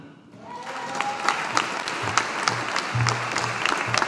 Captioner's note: audience applauding